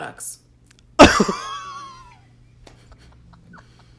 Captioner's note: laughs